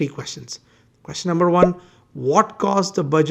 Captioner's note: bubble popping